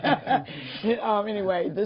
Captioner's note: laughter